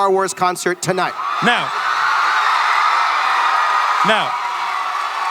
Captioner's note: audience cheering; audience still cheering